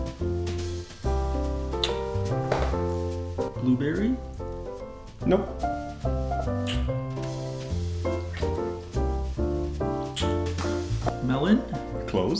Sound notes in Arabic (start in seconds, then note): 6.4 أصوات التقبيل